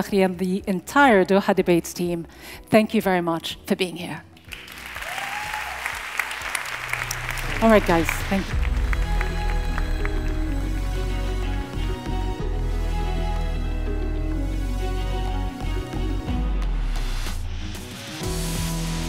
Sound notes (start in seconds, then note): 4.5 audience applauds; 4.9 audience cheers; 8.9 tranquil music